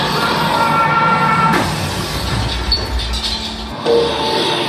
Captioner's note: bomb exploding